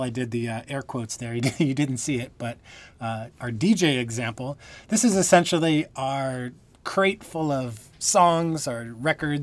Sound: laughter

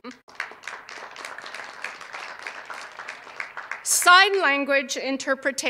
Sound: cheers and applause

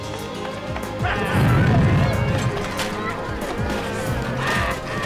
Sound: shouting

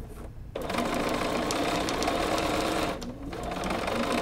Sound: machine humming

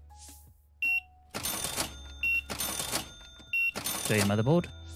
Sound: beeping

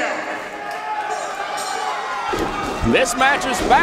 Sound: bell rings

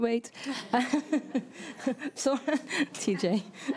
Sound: all giggling

